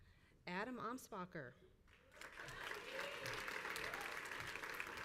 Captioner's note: crowd applauds